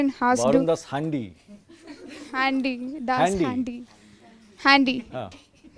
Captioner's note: laughs